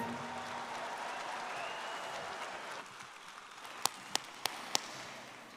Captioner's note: audience clapping and cheering